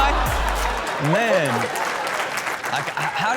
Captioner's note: everyone laughs